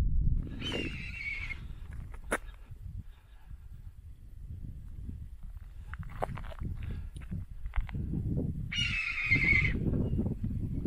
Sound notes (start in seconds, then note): 0.0 wind blowing; 0.6 eagle screech; 8.7 eagle screech